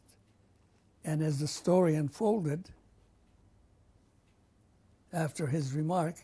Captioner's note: pauses for 3 seconds